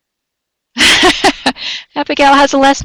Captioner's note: laughing